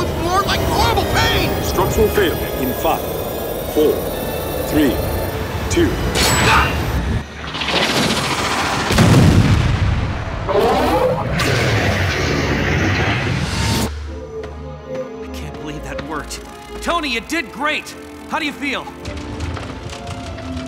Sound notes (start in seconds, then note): 9.9 boom; 11.8 growls